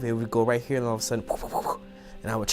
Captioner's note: vocalizes